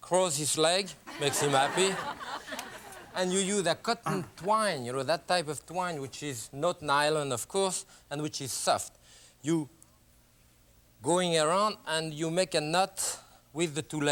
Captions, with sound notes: Close his legs, makes him happy. (laughter) and you use a cotton twine, you know that type of twine which is not nylon of course, and which is soft. You, going around and you make a knot with the two leg here.